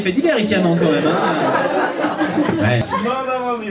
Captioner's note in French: rires public